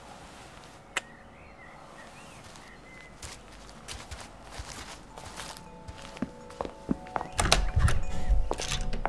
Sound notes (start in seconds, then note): 1.8 footsteps receding; 5.3 wind chimes ringing; 7.1 door opening